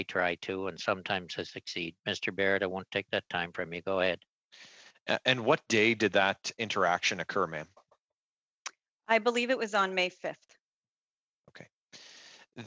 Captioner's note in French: voix de l'interprète